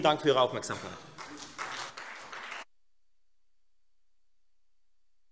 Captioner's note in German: Beifall Freie Demokraten und vereinzelt SPD